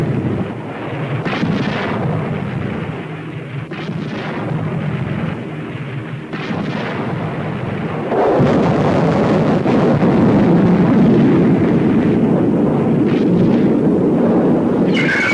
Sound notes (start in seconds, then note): 8.2 explosions booming